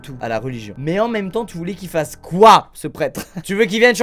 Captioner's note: laughs